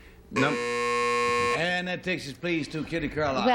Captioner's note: buzzer